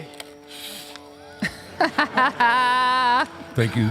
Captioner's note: Michelle laughs